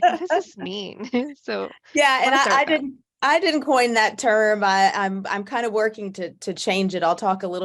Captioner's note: laugh